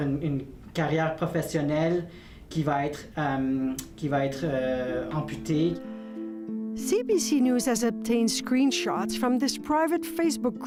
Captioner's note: speaking French